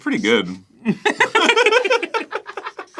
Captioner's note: laughing in this reality